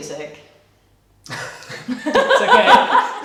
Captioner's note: laughing